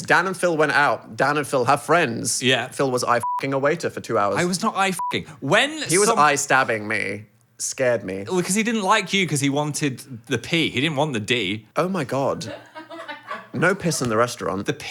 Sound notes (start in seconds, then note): 3.2 beep; 5.0 beep; 12.4 group laughing